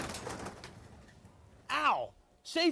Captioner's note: objects clatter